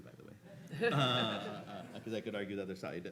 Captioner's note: audience laughing